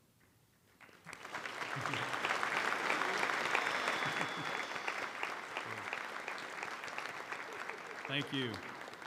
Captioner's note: applause